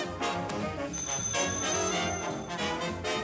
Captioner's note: phone rings